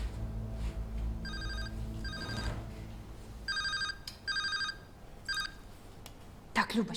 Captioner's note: phone ringing